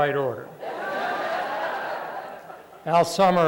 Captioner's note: laughter